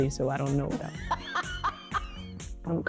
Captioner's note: laughing